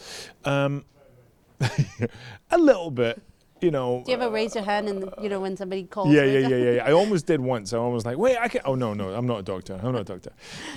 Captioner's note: rires